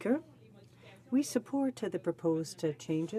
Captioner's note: speaking french